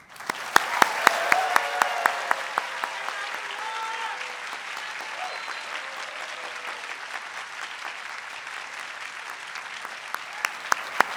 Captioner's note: audience cheers and appauds